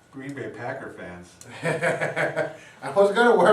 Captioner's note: laughing